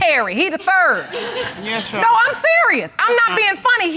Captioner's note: audience laughs